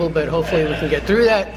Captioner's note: laughter